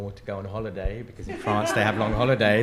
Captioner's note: attendees laugh